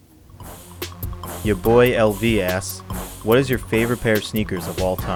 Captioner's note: voiceover